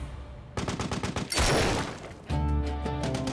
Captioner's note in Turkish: Silah sesi